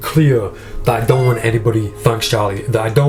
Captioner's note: Charlie meows